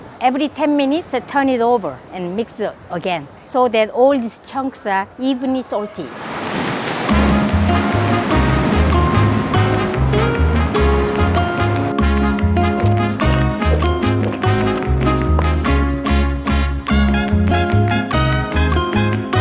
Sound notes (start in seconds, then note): 6.0 waves crashing; 6.8 bright mariachi music